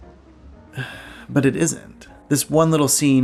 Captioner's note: sighs